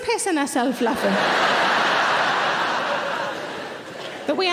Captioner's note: audience laughing